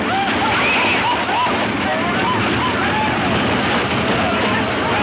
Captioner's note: men whooping; hooves thudding